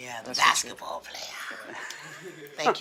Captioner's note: laughs